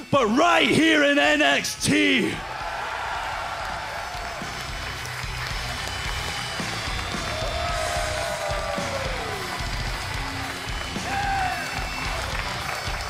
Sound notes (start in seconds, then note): 2.2 crowd cheering